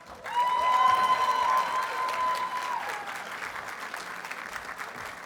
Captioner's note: audience cheers and applauds